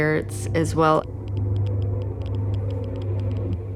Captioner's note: meter crackling